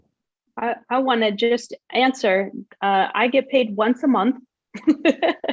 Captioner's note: laughs